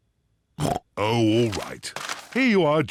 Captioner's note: snorts